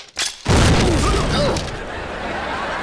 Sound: groaning

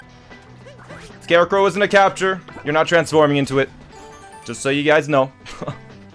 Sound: laughs

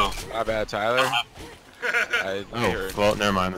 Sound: laughs

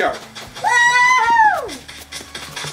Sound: cheering; footsteps

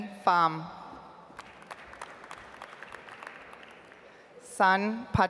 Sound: audience applauds

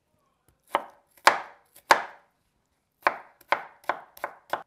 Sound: knife tapping

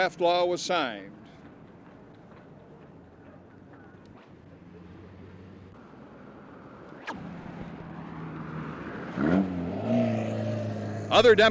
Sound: street noise

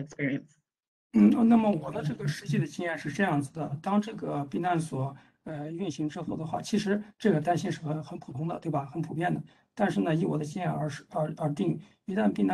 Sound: speaks in Mandarin

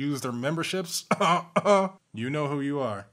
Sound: cough

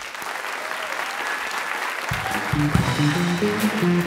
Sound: applause

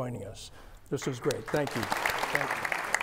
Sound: audience applauds

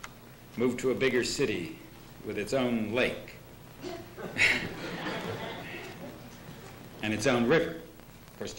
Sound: laughter

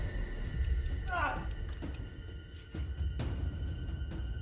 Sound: Jeff grunts

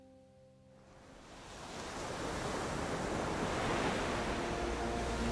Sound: waves lap

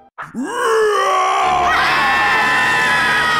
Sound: screaming; roaring

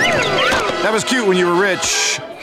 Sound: gasping

